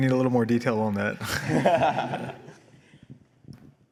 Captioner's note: laughter